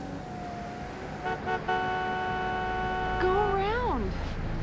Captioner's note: horn honking